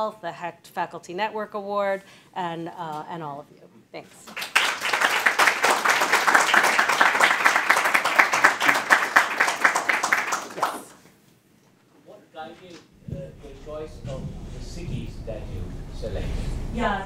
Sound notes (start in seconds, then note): 4.3 audience applauding